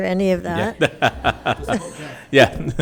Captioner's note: laughs